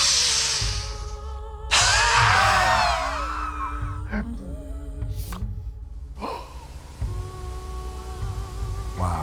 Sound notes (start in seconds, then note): 0.1 inhales sharply; 2.2 puffing